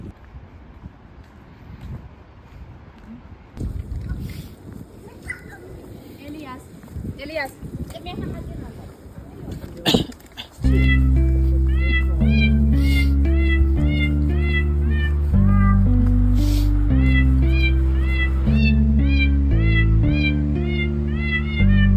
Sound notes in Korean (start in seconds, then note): 9.8 콜록콜록; 12.7 훌쩍